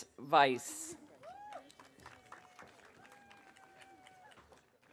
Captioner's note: audience applauding